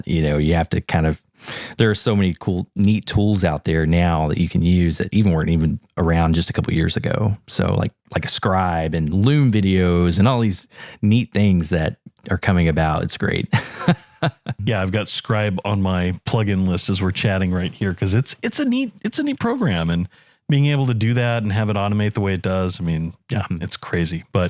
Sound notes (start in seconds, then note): 13.5 laugh